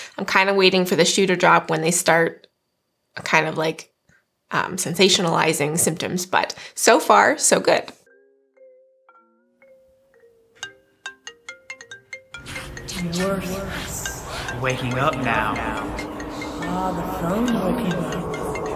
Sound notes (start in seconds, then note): 8.3 phone ringing; 12.4 murmurs